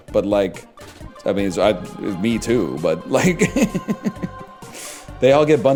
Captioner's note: laughs